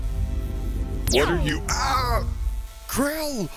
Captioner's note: laser gun fire